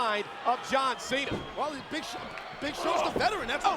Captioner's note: feet thudding